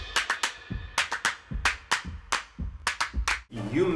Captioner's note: rhythmic clapping